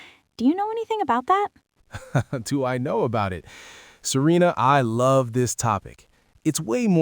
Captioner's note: chuckles